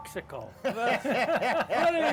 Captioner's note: all laughing